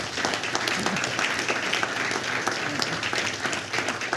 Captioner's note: applause